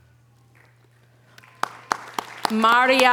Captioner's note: audience applause